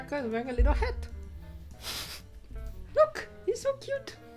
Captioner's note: chuckles